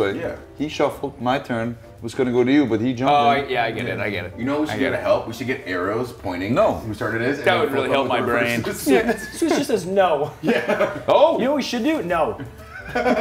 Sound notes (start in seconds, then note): 7.4 laugh